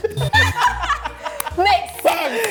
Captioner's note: losing it